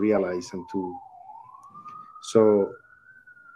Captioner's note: siren wailing